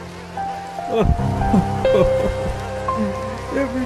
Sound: sobbing

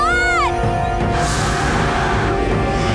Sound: roaring

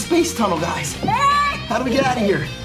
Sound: kid yelling

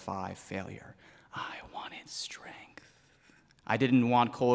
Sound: whispering

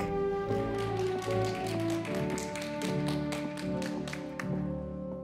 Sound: audience applauding

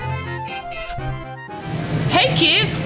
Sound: scratching

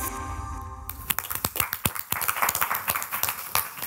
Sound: background music; applause

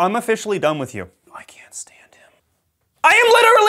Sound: whispers

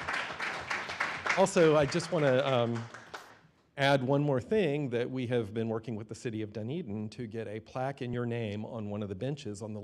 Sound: applause

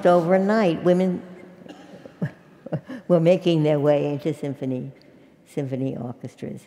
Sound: laugh

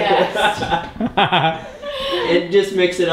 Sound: laughter

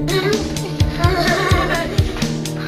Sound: laughter

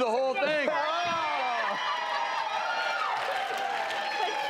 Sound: audience cheering

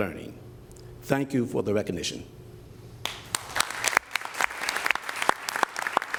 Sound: applause

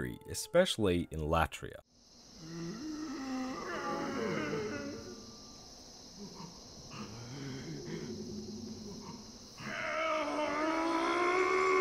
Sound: latria screams

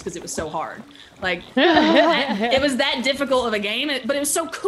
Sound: laugh

